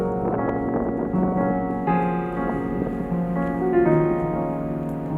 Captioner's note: wind blowing